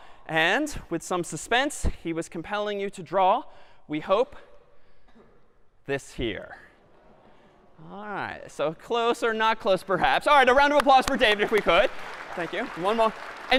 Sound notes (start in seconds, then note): 10.6 applause